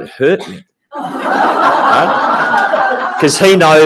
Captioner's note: audience laughing